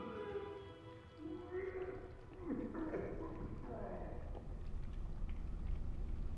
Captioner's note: morning sounds. Sounds of vomiting behind a closed door